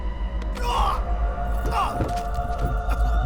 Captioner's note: eerie music playing; yells